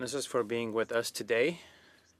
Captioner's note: speaking in French